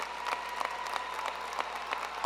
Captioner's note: applause